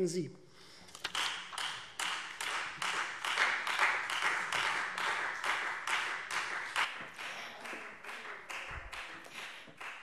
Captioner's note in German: Beifall Freie Demokraten